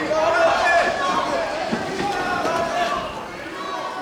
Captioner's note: indistinct shouting